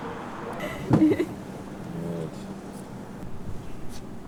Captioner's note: laughing